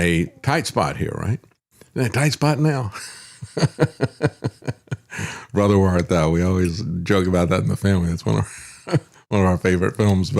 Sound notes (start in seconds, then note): 3.0 laughs